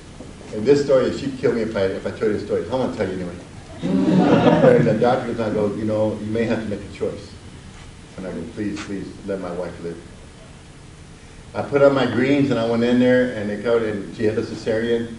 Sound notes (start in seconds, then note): 3.7 audience laughs